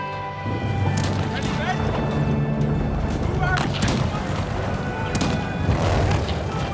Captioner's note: machine gun fire; artillery bombardment